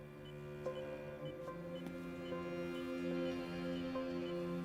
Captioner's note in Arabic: تشغيل موسيقى حزينة; صفير إيقاعي